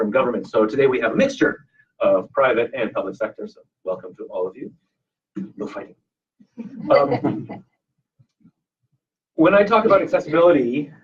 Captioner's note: audience laughs